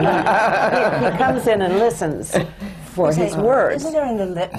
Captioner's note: laughter